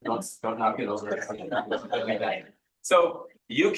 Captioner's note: people laughing